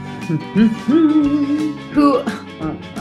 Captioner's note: hums